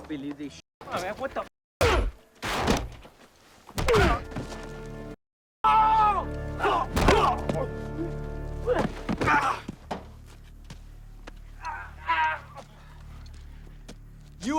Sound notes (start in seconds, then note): 1.8 blow thuds; 2.1 driver grunts; 5.6 drug runners yelling; 6.7 blows thudding; 11.9 driver groaning